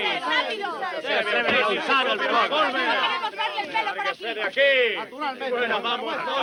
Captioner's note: crowd talking